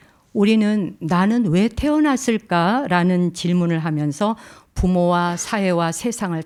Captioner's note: speaking in Korean